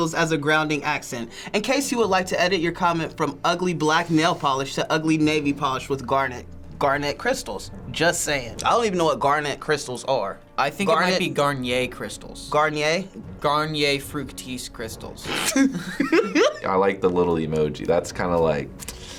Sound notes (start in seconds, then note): 15.3 snickers, laughs